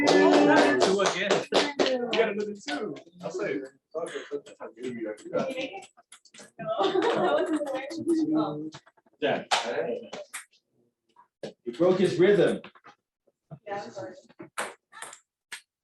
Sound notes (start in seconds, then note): 0.0 applause